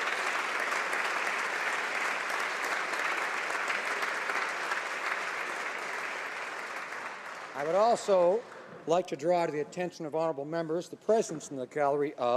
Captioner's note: applause